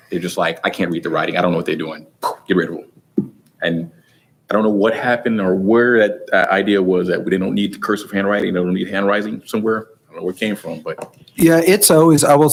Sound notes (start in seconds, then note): 2.2 breath poofs